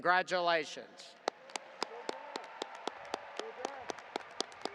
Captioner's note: audience applauding